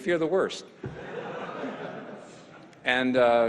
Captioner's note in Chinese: 會眾笑